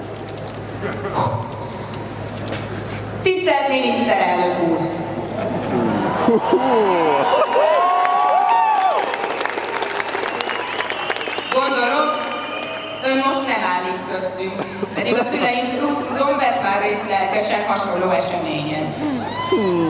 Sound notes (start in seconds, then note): 0.7 blows into the microphone; 6.8 applause